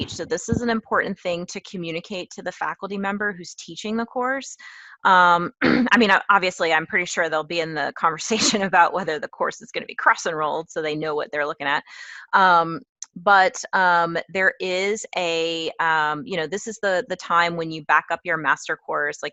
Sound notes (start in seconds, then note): 5.6 cough